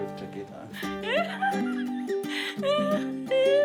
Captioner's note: chuckles